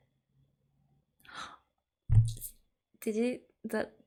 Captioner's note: gasp